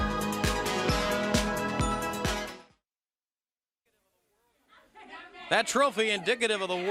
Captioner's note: crowd chatter